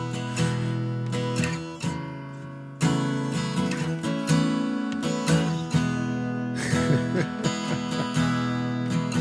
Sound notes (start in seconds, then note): 0.2 guitar strumming; 2.7 laughing